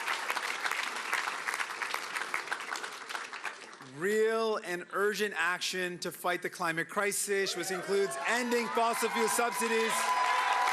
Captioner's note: cheering and Applause